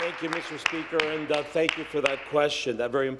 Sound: applause

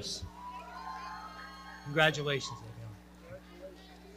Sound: audience cheering

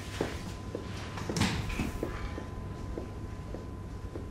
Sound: door opening

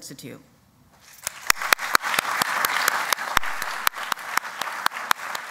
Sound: applause

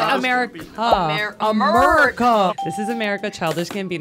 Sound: mocking tone

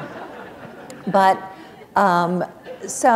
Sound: laughter

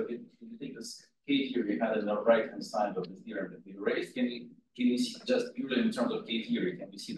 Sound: audio distorting

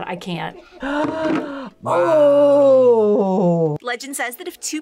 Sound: gasps

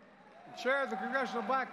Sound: applause

